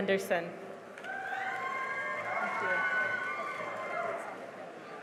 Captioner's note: cheering and applause